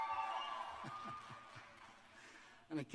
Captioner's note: cheers